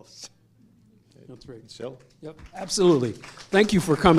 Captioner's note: applause